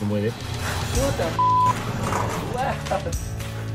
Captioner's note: beep